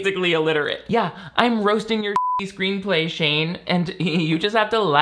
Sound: beep

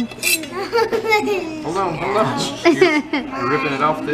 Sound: laugh

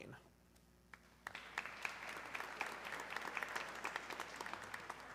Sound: audience clapping

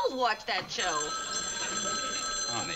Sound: phone rings

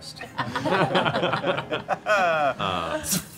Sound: laughing

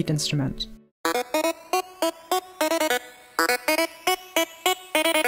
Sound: melodic beeps

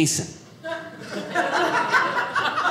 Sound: audience laughing

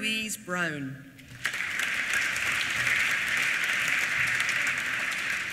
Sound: applause

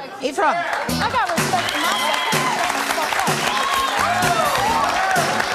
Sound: audience cheering

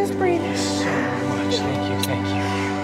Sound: coughing sounds

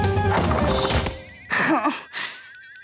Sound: groaning

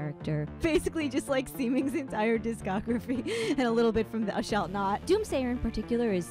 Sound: laughing

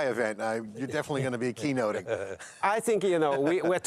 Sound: laughs

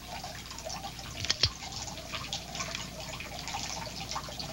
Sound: gun clicking

